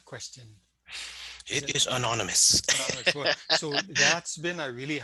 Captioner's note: laughing